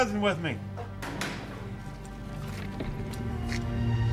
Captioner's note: door unlocking